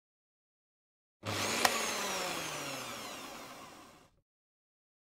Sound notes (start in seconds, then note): 1.2 sound of blender